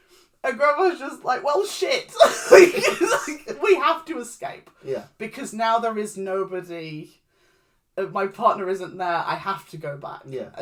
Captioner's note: laughs